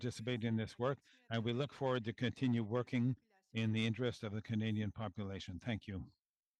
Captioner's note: speaking French